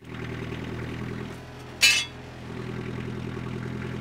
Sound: motor humming

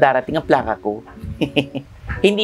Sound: chuckles

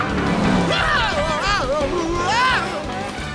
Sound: screaming

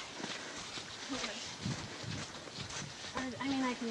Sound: sound of footsteps

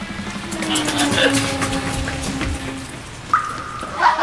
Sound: hahahaha

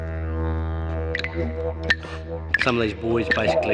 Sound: sticks banging rhythmically

